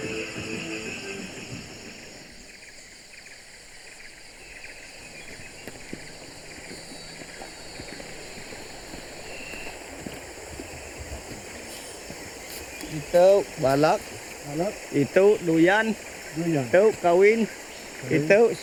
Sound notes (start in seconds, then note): 13.4 speaking in foreign language